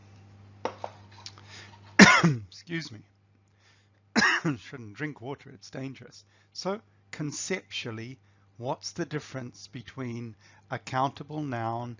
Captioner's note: coughs